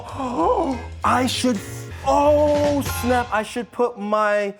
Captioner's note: gasps